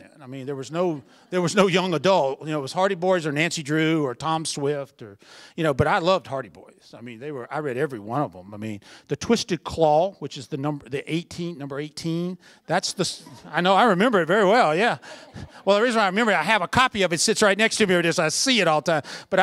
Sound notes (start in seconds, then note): 13.0 laughter